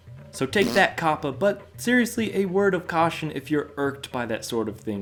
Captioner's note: blowing raspberries